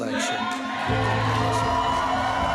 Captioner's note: crowd cheers and applauds